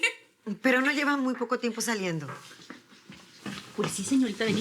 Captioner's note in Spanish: Risas